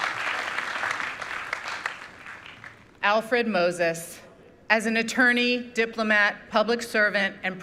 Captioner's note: applause